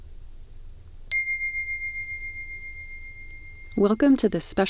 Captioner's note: bell rings